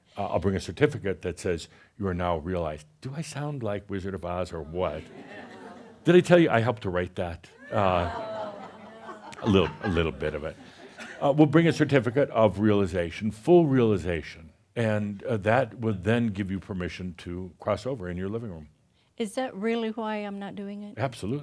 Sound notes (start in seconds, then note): 5.0 audience agrees; 7.6 audience groans